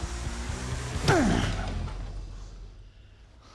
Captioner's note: music stops; grunting